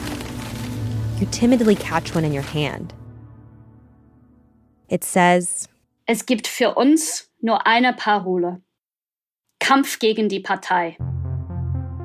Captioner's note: speaking German